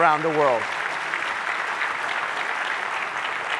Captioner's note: applause